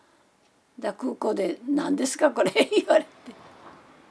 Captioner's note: laughs